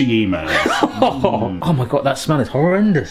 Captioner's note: laughing